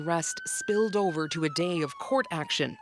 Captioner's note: sirens